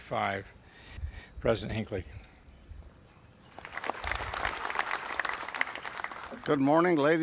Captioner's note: applaud